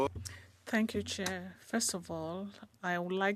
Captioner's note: speaking in French